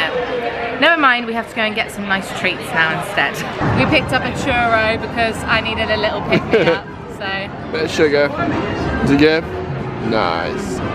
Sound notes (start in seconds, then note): 6.3 laughing